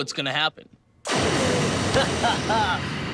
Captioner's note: flame thrower noises